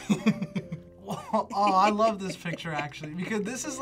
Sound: laughs

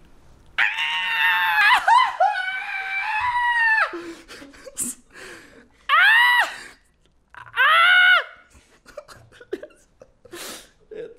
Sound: sounds of happiness and pain

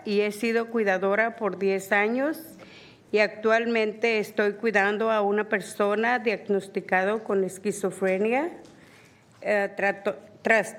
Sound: speaking spanish

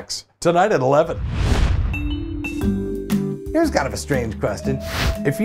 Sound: swoosh / music plays

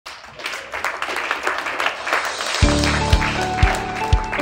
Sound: clapping

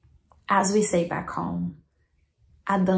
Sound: speaks in foreign language

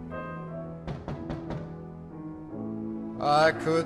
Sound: knock on door

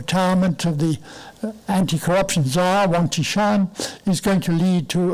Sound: foreign language

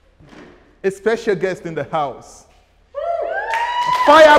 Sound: hooting

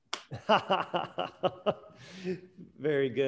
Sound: laughing

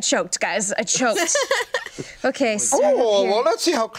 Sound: laughs

